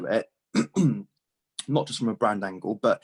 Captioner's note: clears throat